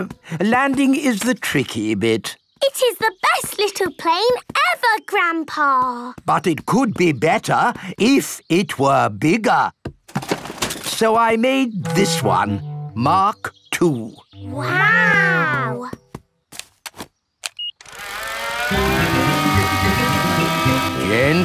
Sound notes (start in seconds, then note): 17.4 beeps; 17.8 plane humming